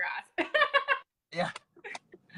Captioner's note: laughs